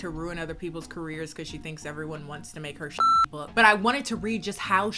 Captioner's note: beep